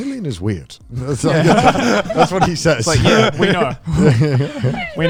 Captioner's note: all laughing